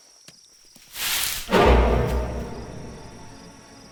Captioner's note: bushes Rustling